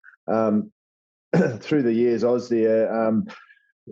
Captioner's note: cough